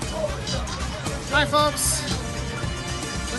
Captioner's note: normal voice